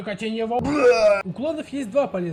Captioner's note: vomit